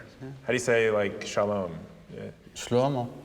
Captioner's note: speaking hebrew